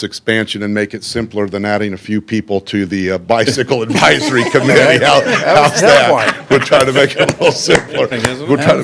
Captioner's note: laughter